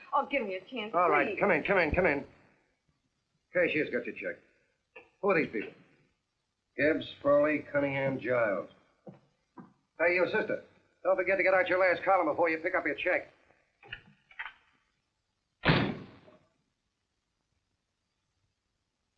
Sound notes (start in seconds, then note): 15.6 door slamming